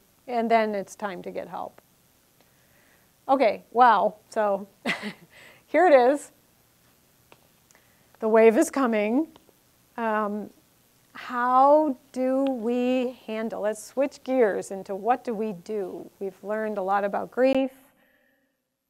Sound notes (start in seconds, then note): 4.8 laughing